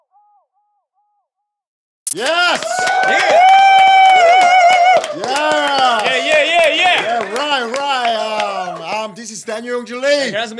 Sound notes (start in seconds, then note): 2.1 everyone cheering